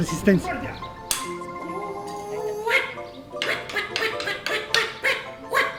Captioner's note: marimba music; puppet voices fighting